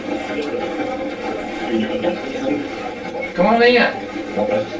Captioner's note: static playback transmitting